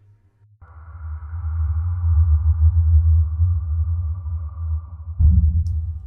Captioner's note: whoosh!